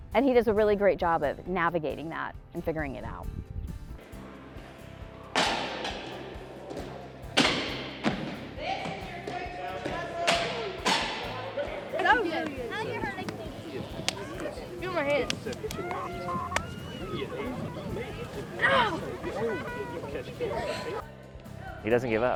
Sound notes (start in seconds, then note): 4.5 hand smacking; 4.5 jumping and hitting the floor